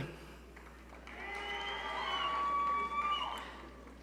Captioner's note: audience cheering